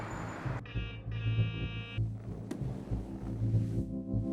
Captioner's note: beeping; tense music